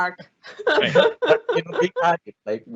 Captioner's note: all narrators laughing